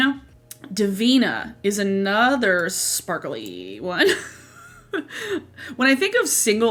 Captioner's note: laughs